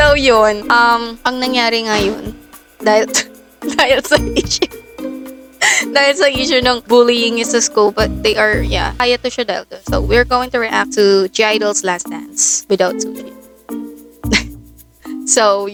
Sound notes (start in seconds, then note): 3.7 can't help but laugh